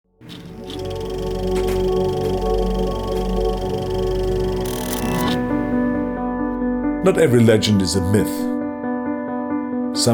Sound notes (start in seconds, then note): 0.2 film reel rattling; 5.7 piano music